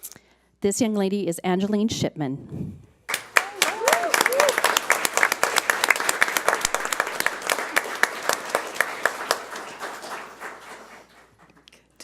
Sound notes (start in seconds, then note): 3.1 audience applauds